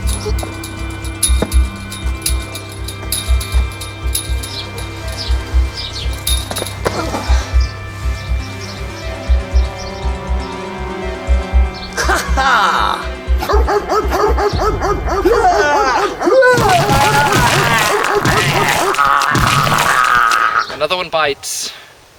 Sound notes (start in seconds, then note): 0.1 chainlink jingles; 13.5 dog barks ferociously; 15.2 Greeb Screams